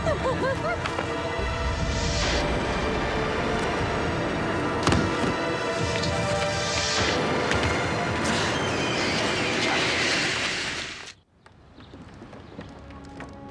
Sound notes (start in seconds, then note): 0.0 Eliza giggles; 4.8 body thumping; 13.2 ominous orchestral music